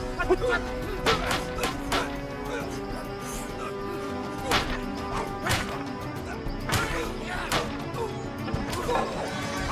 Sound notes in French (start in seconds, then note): 0.0 musique tendue et pleine de suspense; 5.4 les bâtons claquent et sifflent